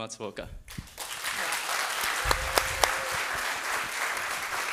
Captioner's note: audience applauding